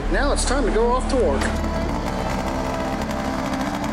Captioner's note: engine turning